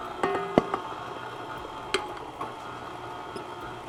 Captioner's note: mixer whirring; metallic banging